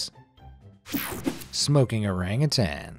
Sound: image whooshing

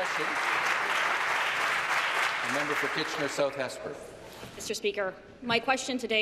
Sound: applause

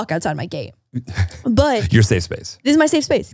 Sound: laughs

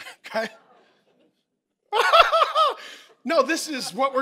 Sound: laughing

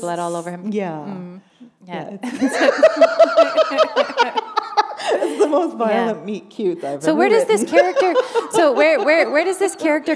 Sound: laughter

